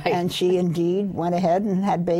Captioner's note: laughs